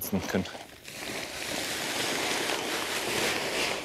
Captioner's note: loud hissing and rattling